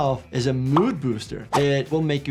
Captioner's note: emoji popping